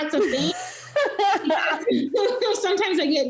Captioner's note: laughing